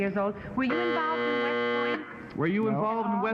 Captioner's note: buzzing